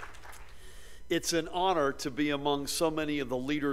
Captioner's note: applause